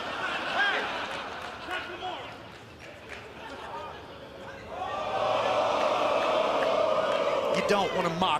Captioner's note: laughter